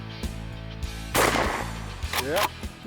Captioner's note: gunshot